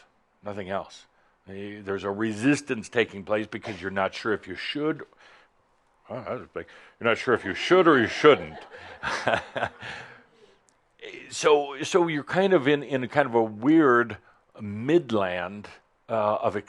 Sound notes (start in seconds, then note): 3.6 someone sneezed; 7.3 laughter